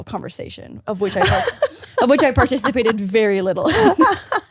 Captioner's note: laughs